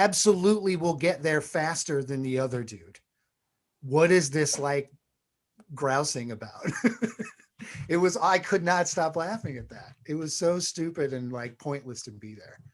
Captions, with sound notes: absolutely will get there faster than the other dude. What is this, like, grousing about? [Laughs] It was, I could not stop laughing at that. It was so stupid and, like, pointless to be there.